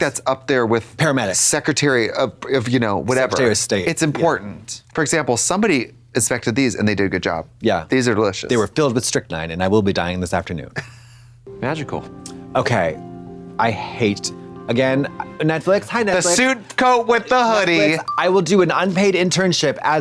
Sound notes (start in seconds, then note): 11.1 Trixie laughs